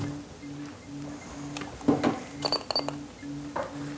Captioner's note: beeping